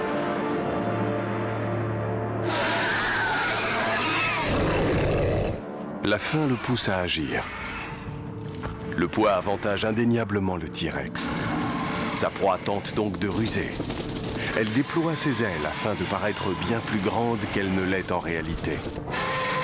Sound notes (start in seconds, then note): 2.4 roaring; 2.5 growling